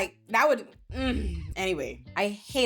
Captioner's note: clears throat